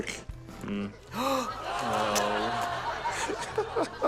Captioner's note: gasps; laughter; chuckles; laughs